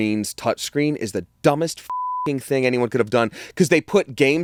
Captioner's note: beep